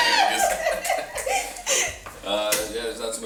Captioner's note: laughs